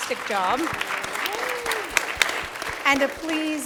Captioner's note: applause